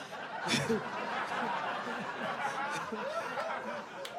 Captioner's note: audience laughs; laughs